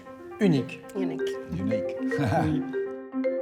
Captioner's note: chuckling